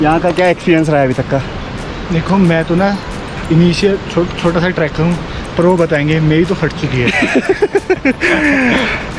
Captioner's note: laughs